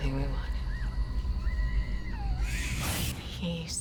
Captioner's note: screaming in distance